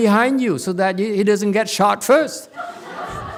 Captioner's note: audience laughs